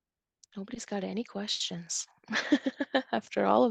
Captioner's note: chuckles